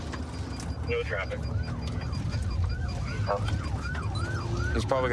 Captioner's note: sirens wailing